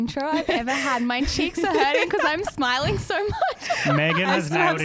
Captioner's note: laughs